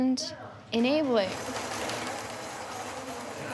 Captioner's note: robot rolling